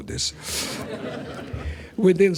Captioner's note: laughter